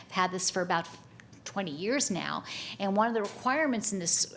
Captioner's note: none